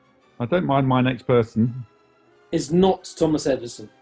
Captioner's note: none